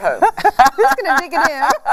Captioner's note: laughing